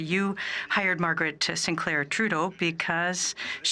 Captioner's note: speaking French